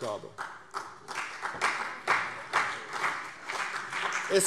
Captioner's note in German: Vereinzelter Beifall CDU und BÜNDNIS 90/DIE GRÜNEN